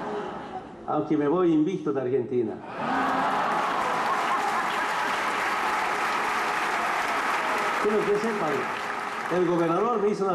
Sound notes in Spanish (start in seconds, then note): 0.0 risas; 4.3 aplausos, risas